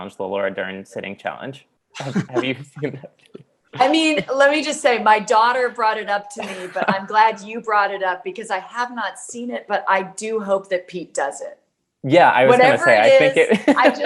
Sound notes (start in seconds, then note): 2.0 laughing